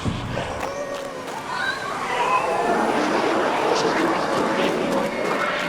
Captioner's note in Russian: резонирующий, сбивчивый демонический ропот; тонкий, призрачный вой